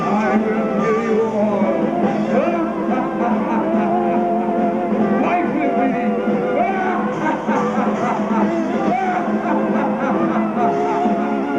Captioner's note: giant laughing